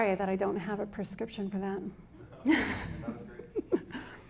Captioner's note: laughs